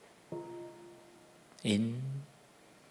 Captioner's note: sound of the gong